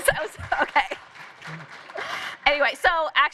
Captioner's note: applause